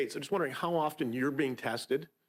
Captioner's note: speaking French